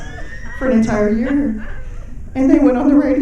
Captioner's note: audience laughing